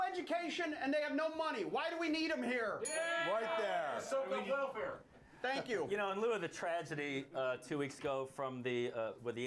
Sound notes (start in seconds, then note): 4.8 bell rings